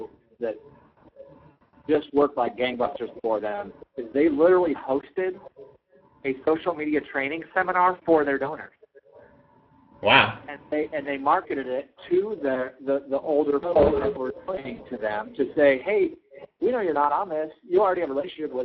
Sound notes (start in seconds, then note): 11.0 complaining